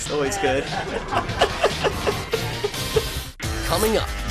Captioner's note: laughter